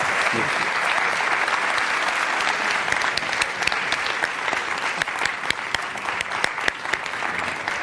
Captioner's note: applause